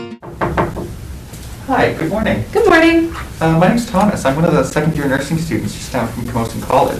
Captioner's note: knocks on door